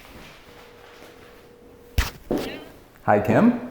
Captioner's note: phone ringing